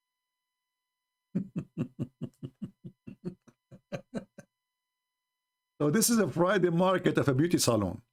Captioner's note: Ketawa